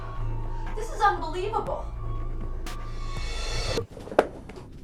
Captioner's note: time start noise